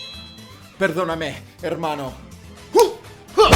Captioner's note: in Spanish